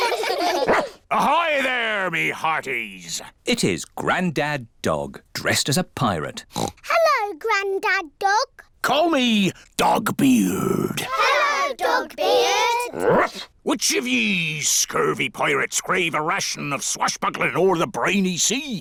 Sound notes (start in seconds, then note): 0.6 barks; 6.5 oinks; 13.0 barks